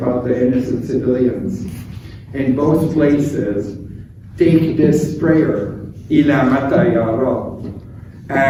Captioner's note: speaking arabic